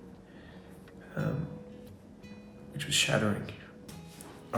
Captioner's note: sighs